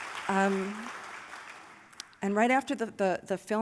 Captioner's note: applause